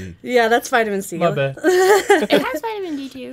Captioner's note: laughing